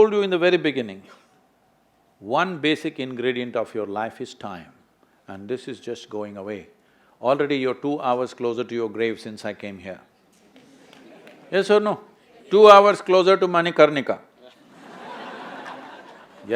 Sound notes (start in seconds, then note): 10.5 few laugh; 14.5 laughter